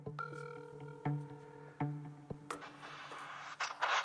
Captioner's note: phone ringing